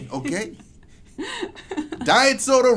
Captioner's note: laughs